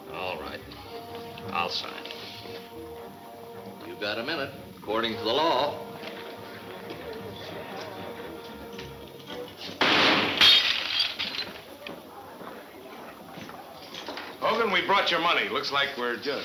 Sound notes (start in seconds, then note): 9.8 gunfire pops; 9.8 glass shuttering